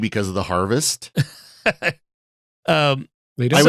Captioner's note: laughing